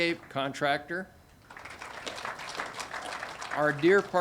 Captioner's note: audience applauding